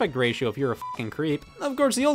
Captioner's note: beep